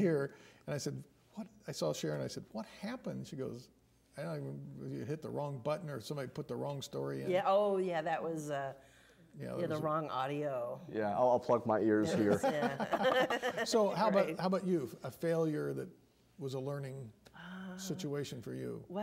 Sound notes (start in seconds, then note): 12.1 laughing